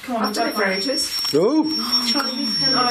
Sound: loud beeping

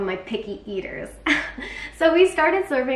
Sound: laughs

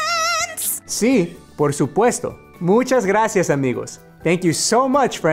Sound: speaking spanish

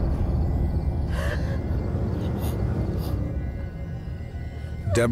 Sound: crying

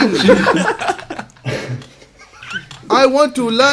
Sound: students laughs

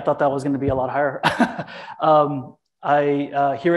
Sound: chuckles

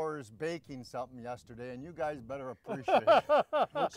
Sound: laughing

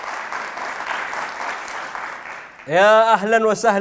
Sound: clapping

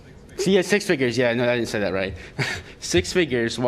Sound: laughter

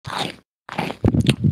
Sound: eats crisps; smacks lips

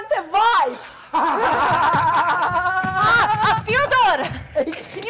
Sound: drunk man and Sharik loudly laughing

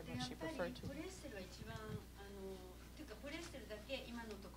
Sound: non-english speech

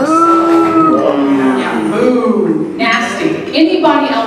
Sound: booing

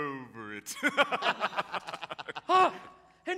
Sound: pirates laughing

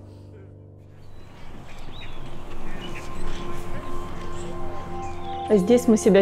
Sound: gentle ethereal music; seagulls squawking; speaking Ukrainian

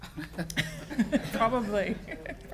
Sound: attendees laughing

